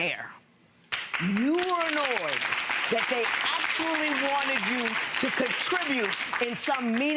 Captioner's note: audience applause